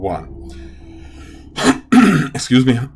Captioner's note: clears throat